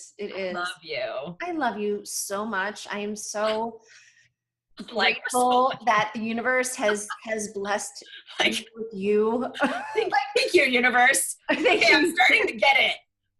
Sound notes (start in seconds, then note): 11.5 laughter